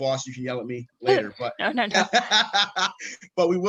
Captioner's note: laughs